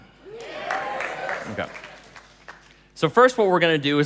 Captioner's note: applause